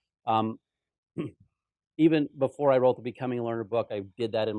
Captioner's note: cough